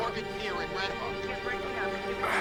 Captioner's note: operator On Phone